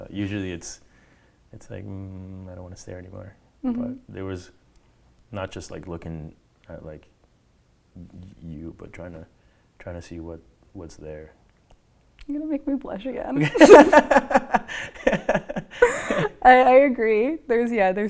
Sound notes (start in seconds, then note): 13.4 laughing